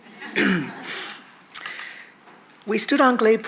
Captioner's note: attendees laughing